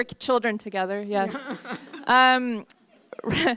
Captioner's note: courtesy chuckles